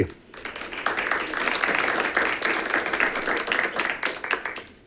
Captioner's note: audience clapping